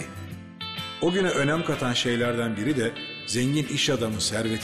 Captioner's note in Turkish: Ahmet dış ses